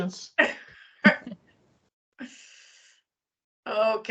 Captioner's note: people chuckling